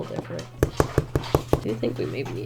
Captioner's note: eraser thudding